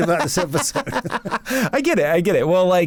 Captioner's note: laughs